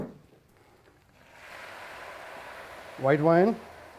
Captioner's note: sizzling